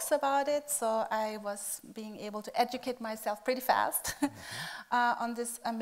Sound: laughing

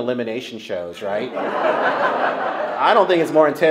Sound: laughter

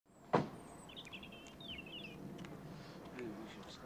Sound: birds chirping

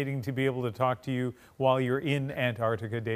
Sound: none

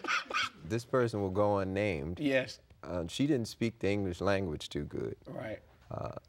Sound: laughter

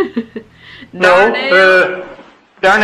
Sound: laughs

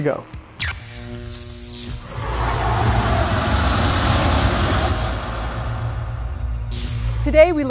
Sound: sound Effects

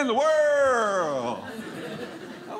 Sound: audience laughing

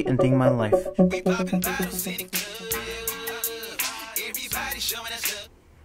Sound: badass ringtone

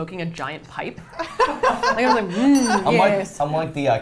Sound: all laughing

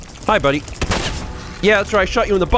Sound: blam!

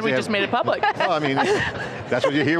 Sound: all laugh

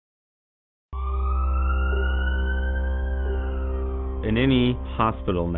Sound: ambulance siren wailing

